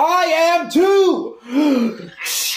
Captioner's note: deep breath